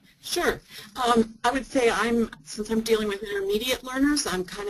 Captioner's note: voiceover